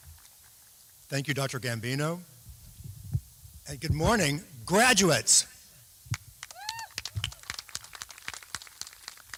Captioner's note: applause